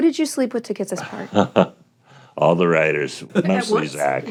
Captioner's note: chuckles